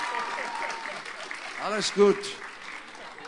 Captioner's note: applause